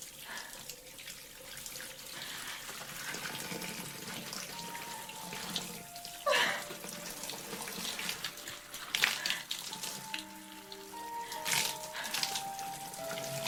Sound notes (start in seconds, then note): 6.2 Louise sobbing